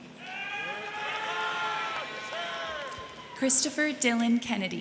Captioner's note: crowd cheering; crowd clapping